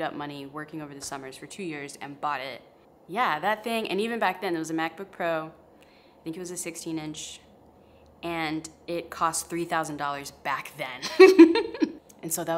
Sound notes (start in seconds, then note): 11.1 laughs